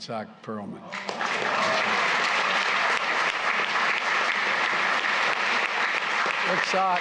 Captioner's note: applause